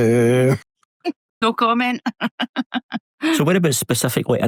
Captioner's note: laughs; laughter